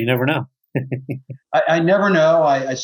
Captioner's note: chuckles